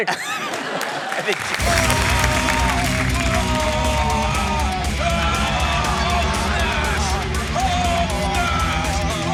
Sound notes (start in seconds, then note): 0.0 laughter; 1.6 heavy rock music plays; 2.5 both yell, grunt